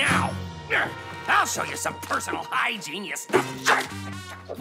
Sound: grunts

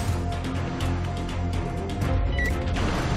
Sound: beeps

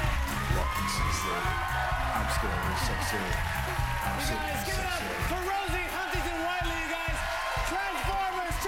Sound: cheers and applause

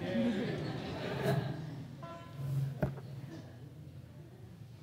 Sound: audience laughter

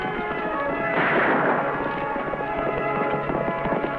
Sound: guns fire

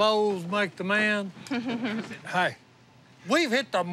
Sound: chuckles

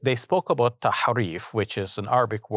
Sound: speaking foreign language

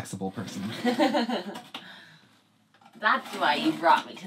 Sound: laughing

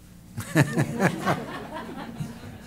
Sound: laughter

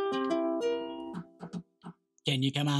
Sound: knocks on ukulele

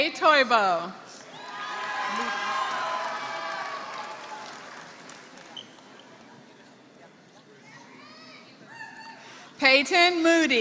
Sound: applause

